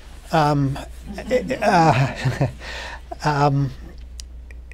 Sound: laughter

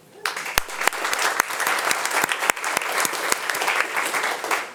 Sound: audience applauding

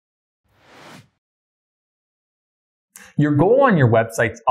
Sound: air whooshing

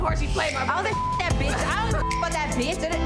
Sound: beep

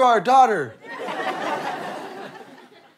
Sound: audience laughter

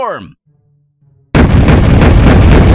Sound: explosion

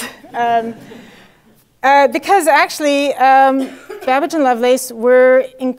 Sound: laugh

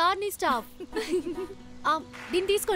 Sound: giggling

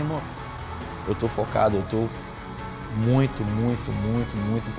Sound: speaking Portuguese

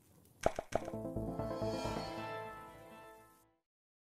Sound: logo popping; upbeat music

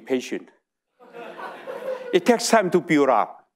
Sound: audience laughing

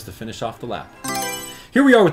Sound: Mario Selection Sound

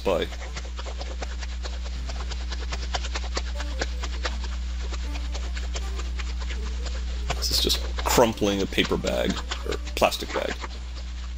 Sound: crumpling a plastic bag

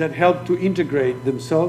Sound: speaking foreign language

